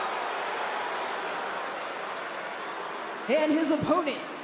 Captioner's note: crowd boos